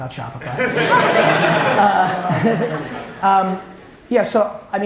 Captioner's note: audience and Gary laugh